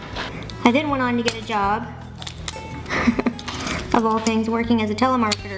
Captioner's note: laughing